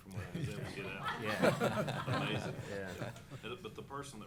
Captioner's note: laughter